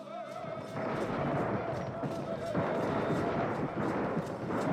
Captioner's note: guns booming